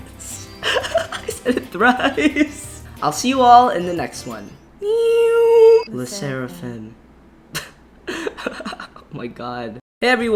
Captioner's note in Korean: 엉성하게 재연된 음향 효과